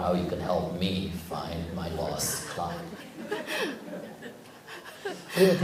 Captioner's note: audience/Questioner Laughter